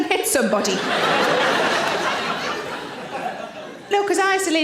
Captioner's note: audience laughing